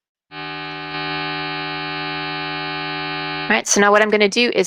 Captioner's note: electronic sound effect